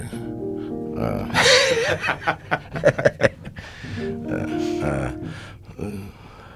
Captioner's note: piano sounds; laughing